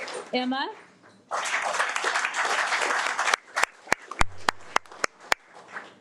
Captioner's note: audience applauding